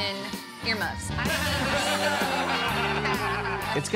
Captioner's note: laughter